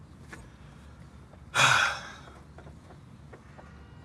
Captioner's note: he sighs